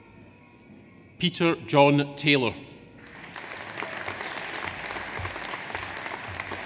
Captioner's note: audience applauds